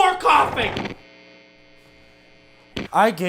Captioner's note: cords unplug